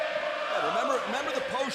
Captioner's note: fans chanting